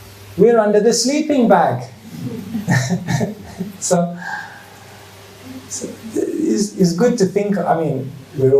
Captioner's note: chuckles